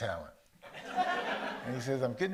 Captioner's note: audience laughs